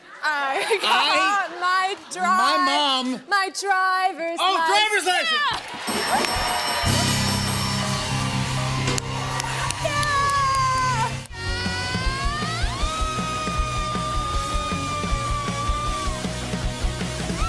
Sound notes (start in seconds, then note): 5.4 cheers and applause; 5.9 ding!; 11.3 screams